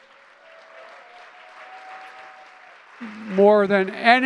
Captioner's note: applause